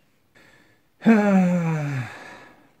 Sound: sigh

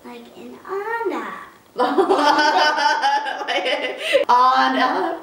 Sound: laughter

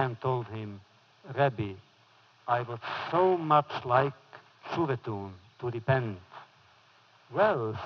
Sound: foreign language

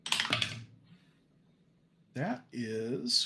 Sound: dice rattling

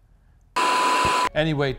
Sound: static crackles

